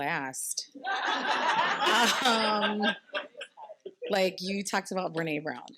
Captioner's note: participants laughing